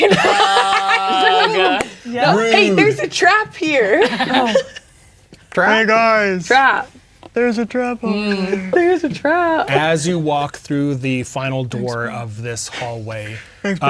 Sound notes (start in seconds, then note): 0.0 laughing; 5.6 deep voice